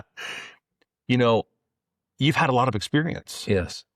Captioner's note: laughs